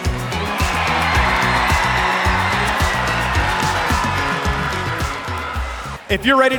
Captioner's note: crowd cheers